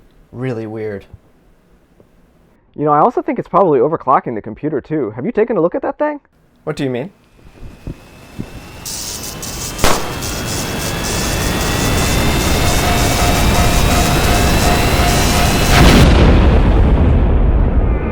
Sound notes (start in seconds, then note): 9.0 engine Whirring; 10.5 electric Sparks; 15.7 kaboom